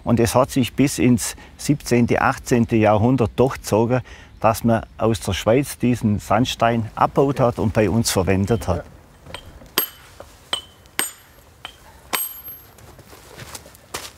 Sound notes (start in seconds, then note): 10.5 chiseling